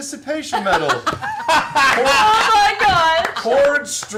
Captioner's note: laugher